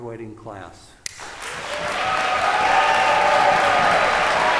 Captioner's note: cheers and applause